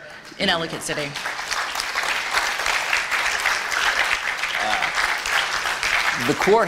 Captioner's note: applause